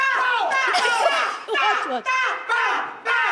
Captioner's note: laughs